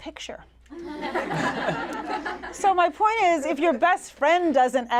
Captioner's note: laughter